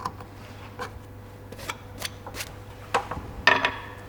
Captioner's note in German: Schabende Geräusche